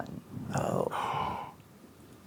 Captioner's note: gasps